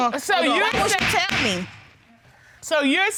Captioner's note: gavel bangs